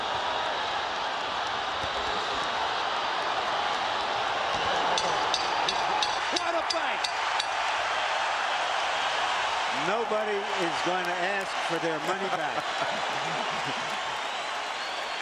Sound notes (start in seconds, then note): 5.3 bell dings